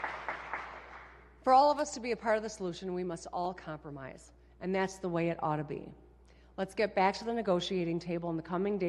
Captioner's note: applause